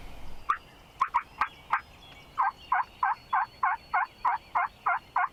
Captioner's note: turkey call chirping